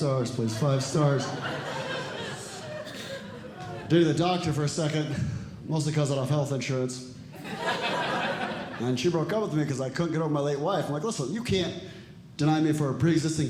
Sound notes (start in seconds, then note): 7.3 audience Laughing